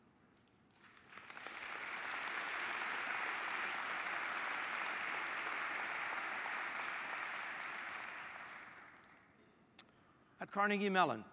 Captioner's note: applause